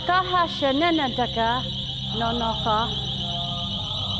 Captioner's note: alarm ringing; indians chanting